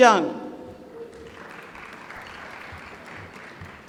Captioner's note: applause